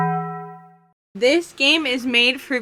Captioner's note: Taco Bell gong